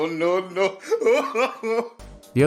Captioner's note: hysterical sobbing